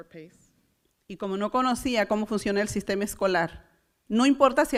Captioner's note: foreign language